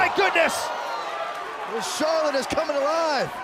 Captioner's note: cheers & applause